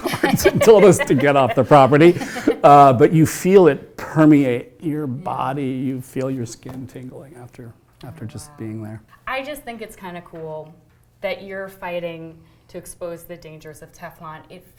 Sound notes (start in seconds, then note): 2.4 laughter